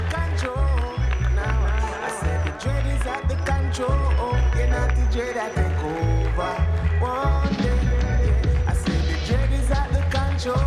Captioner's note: applause